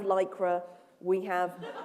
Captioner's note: laughter